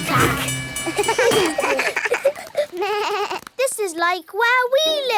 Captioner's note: all laugh